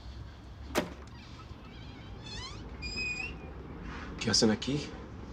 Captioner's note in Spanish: Ruido al abrir